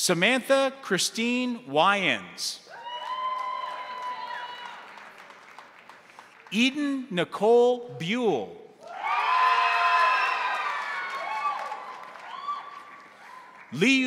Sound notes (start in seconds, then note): 2.7 crowd cheering; 2.7 crowd applauding; 8.8 crowd applauding; 8.8 crowd cheering